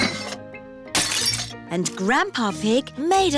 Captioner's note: shattering